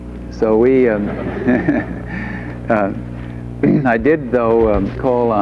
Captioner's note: group laughs